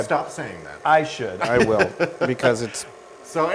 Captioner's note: laugh